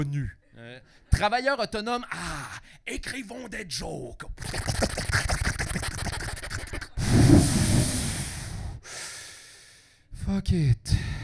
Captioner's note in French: bruit de bong